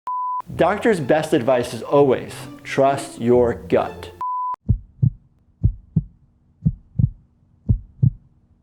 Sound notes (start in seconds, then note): 0.1 beep; 4.2 beep; 4.6 heartbeat